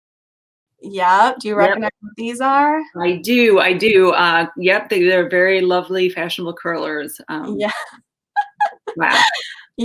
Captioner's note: laughs